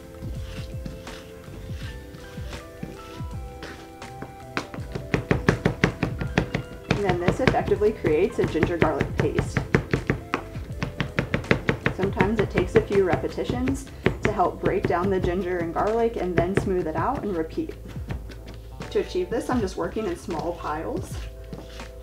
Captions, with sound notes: (knife banging) And then this effectively creates a ginger garlic paste. (knife banging) Sometimes it takes a few repetitions to help break down the ginger and garlic. And then smooth it out and repeat. To achieve this, I'm just working in small piles